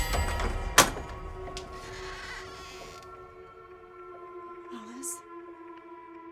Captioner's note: dramatic music; door clattering; pensive music